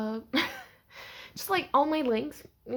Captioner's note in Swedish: litet skratt